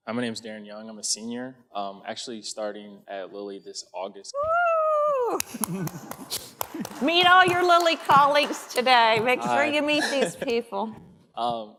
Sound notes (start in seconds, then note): 5.4 applause